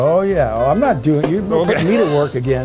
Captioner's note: laughing